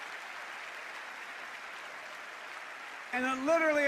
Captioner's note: cheers and applause